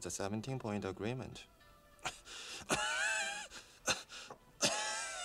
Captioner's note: coughing